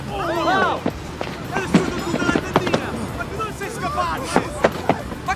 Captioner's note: all exclaiming; man speaking Italian